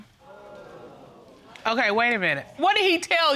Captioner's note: audience exclaiming